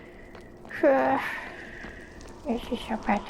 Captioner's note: sigh